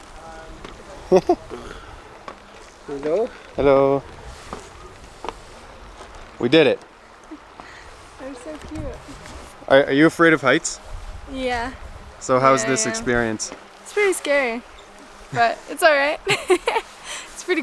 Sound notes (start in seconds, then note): 1.0 laughing; 16.2 laughing